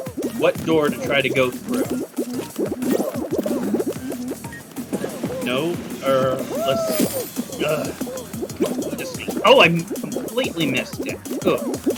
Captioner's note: groan